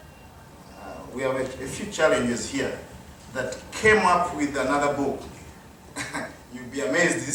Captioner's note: chuckle